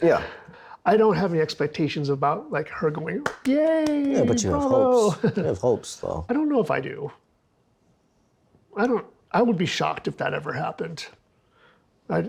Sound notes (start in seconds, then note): 3.0 clapping